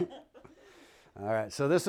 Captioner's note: speaking spanish